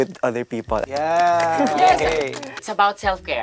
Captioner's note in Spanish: campistas animando